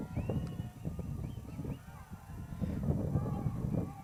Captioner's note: crowd cheers